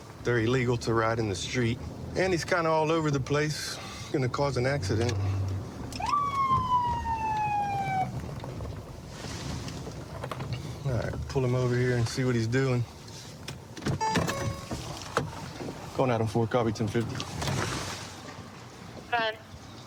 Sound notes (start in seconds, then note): 5.8 sirens blaring